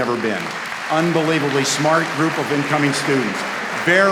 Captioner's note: applause